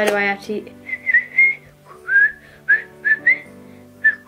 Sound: whistles

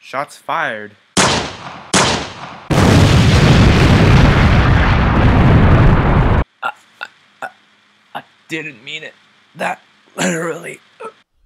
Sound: weak voice

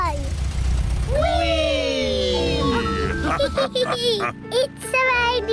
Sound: all laugh

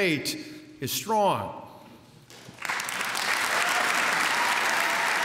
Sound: applause

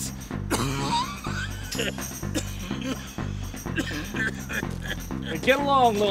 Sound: coughing

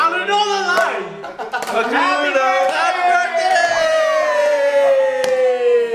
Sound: laughs

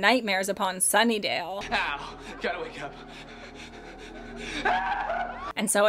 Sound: screams

